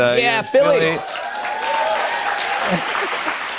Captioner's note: cheers and applause